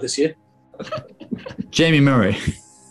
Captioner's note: sniggering